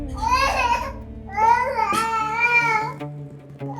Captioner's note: crying